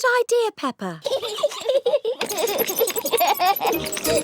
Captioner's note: both giggling